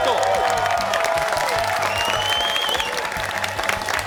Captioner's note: cheers and applause